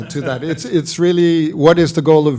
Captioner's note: laughs